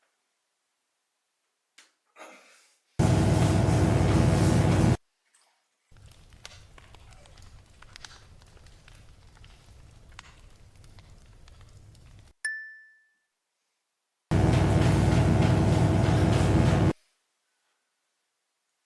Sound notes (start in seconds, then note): 3.0 electric buzzing; 6.0 bones creaking; 12.4 bell dings; 14.3 electric buzzing